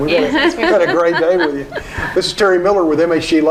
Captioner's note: laughing